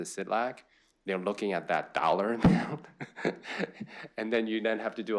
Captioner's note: laughs